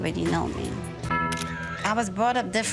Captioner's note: camera snapping